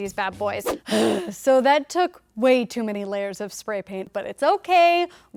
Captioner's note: huffing